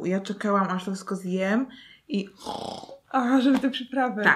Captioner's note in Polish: dźwięk chrumkania